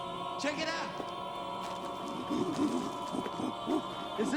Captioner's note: grunting